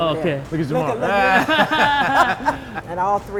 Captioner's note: laughter